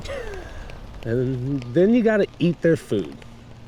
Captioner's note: James laughing